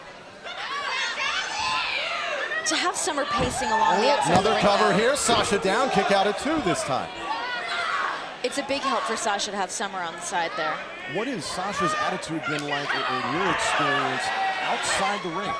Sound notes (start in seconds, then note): 4.6 crowd chatter